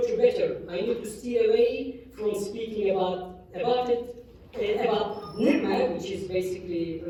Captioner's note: non-english